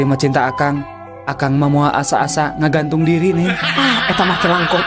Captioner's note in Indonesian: tertawa